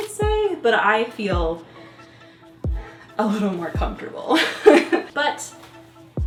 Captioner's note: chuckles